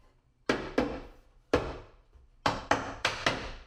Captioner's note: mallet bangs